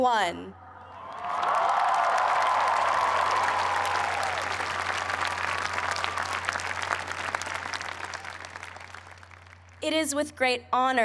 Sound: cheers and applause

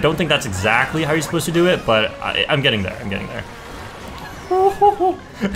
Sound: laughs

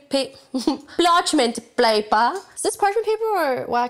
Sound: laughs

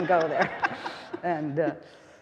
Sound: all laughing

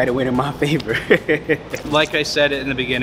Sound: laughing

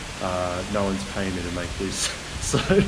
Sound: laughs

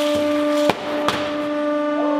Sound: psssssssh; pop

